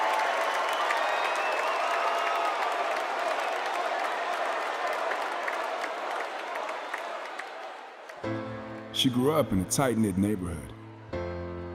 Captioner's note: cheers and applause